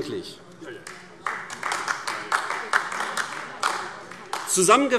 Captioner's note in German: Beifall AfD